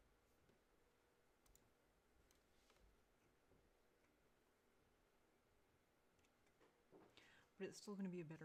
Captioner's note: mouse and keyboard clicking